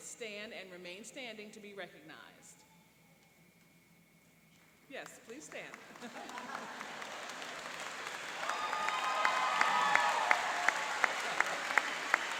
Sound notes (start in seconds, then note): 5.8 laughing; 8.0 applauding and cheering